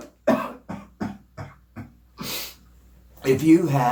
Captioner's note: coughs